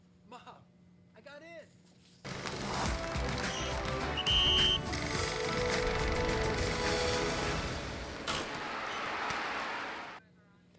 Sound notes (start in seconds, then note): 2.6 triumphant music; 4.0 whistle blowing; 5.1 triumphant music